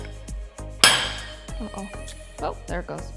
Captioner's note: plate clanking